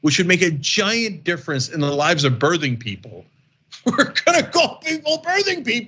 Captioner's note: laugh